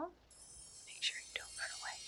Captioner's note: twinkling sounds; whispers